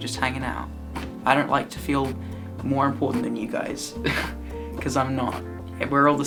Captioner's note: laughs